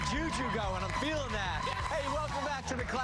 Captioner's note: cheers and applause